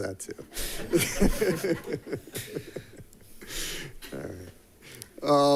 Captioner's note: attendees laughing